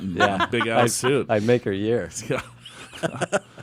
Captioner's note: laughs